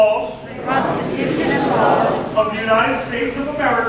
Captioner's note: crowd